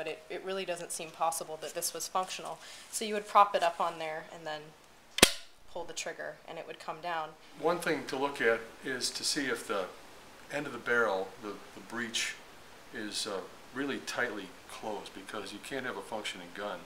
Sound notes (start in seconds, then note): 5.2 metal pop sound